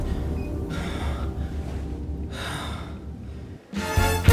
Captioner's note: breathing hard; exciting big band music